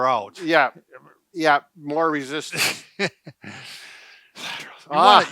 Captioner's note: laughs